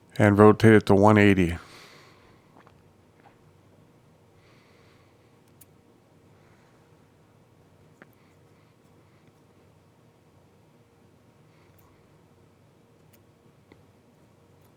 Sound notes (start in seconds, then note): 2.3 silence